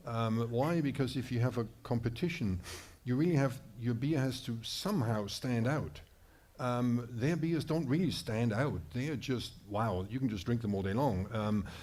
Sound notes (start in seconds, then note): none